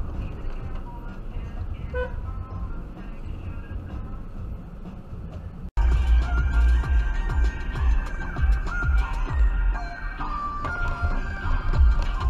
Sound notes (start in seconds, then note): 1.8 dashcam driver honks